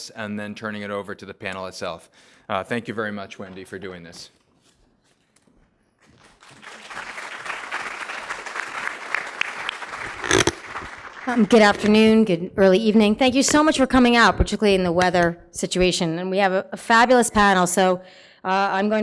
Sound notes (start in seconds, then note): 6.1 applause